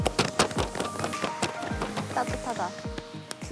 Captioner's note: clapping